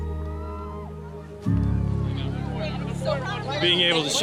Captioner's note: cheers and applause